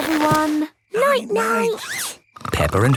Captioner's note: snores